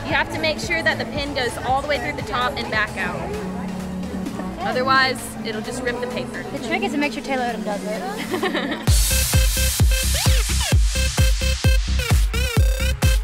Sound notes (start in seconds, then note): 8.1 laughing; 9.0 upbeat electronic dance music